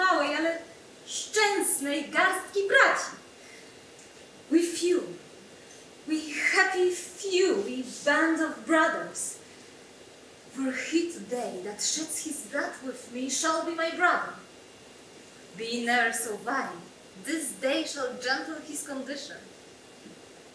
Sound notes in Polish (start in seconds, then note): 4.7 Po angielsku